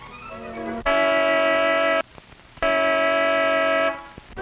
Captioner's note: horn honking